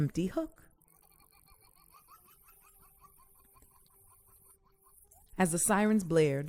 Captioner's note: laughter